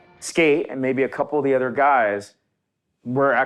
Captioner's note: none